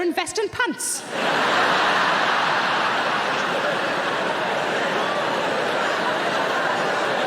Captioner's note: audience laughing